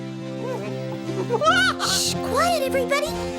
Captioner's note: laughs